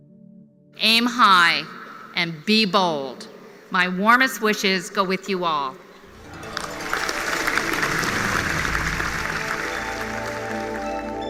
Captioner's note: applause